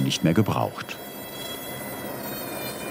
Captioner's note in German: Schleifgeräusche